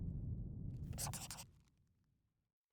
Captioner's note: scribbling